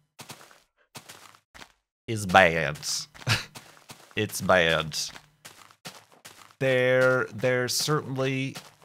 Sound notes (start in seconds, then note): 3.2 nervous laugh